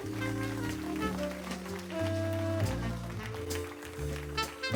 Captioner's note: crowd cheering